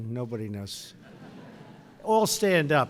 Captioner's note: laughter